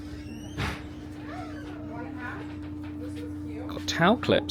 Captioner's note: door thudding; crowd chattering